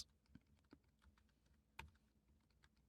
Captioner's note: typing